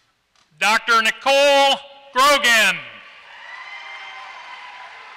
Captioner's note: applause